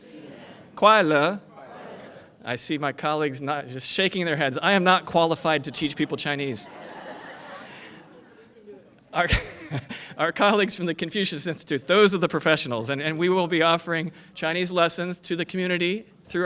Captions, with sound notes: [ FOREIGN LANGUAGE ] I SEE MY COLLEAGUES NOT JUST SHAKING THEIR HEADS, I AM NOT QUALIFIED TO TEACH PEOPLE CHINESE. [ LAUGHTER ] OUR COLLEAGUES FROM THE CONFUCIUS INSTITUTE, THOSE ARE THE PROFESSIONALS AND WE WILL BE OFFERING CHINESE LESSONS TO THE COMMUNITY